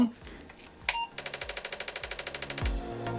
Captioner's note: beeping